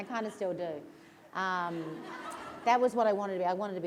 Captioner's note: laughter